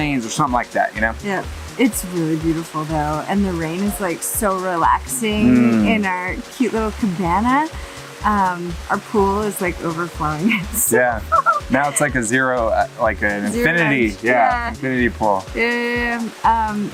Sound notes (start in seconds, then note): 10.9 laughs